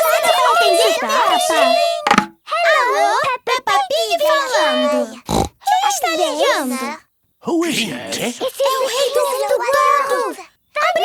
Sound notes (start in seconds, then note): 5.2 snorts